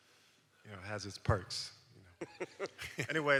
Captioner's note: all laughs